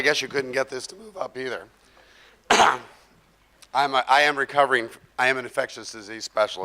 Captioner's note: coughs